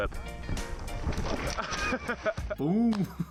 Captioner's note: laughing